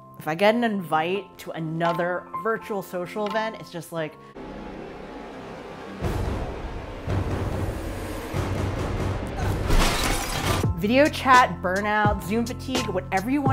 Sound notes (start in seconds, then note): 4.2 intense music; 9.6 glass shattering